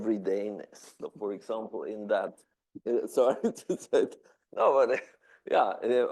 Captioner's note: laughing